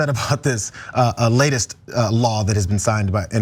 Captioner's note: laugh